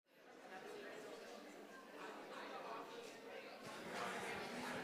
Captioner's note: audience chatters